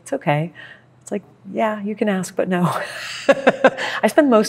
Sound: laughs

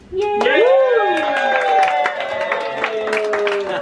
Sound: cheering

